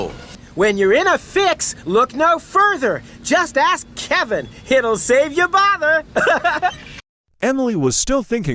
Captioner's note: laughs